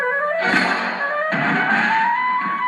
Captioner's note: thud